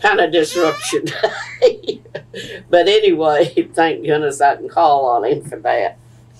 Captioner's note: laughs